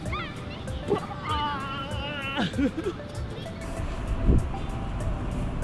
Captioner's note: yelling